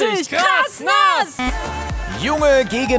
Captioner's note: Kurzer Ton